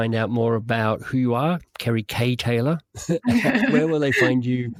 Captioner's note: both laughing